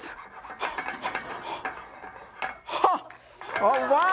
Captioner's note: yelps